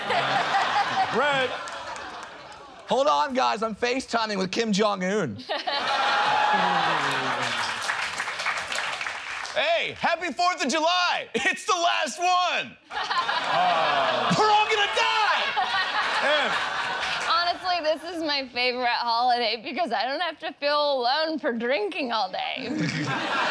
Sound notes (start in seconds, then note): 17.4 slurring